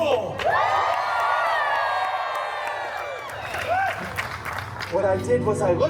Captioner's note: guests cheering and applauding